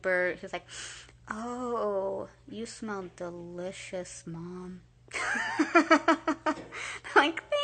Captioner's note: sniffing nose; laughing